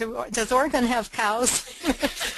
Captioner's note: laughter